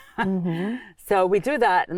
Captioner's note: giggle